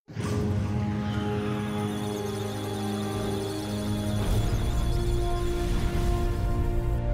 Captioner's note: musical tones; electronic sounds of data